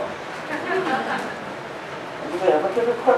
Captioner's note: laughter from Audience